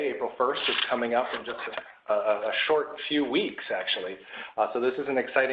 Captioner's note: Arabic; Vietnamese